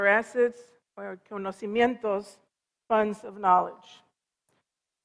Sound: foreign language

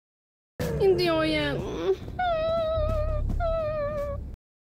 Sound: whimper

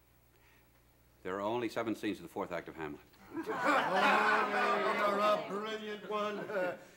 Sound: laughter

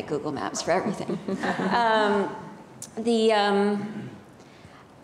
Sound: audience laughing

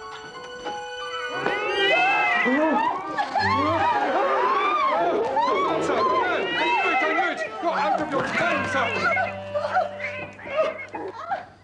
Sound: stampede of mewing cats; screams of horror

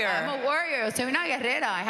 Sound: speaking Spanish

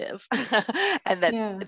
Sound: chuckling

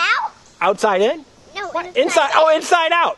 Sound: voiceover

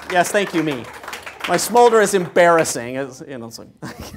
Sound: applause; laugh

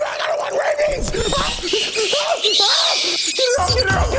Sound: squeaking, screaming

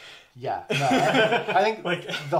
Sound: laughs

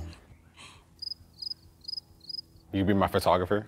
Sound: insects chirping

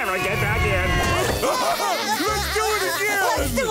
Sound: laughing

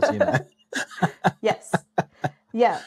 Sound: laughing

